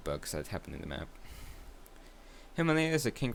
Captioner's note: breathes with consent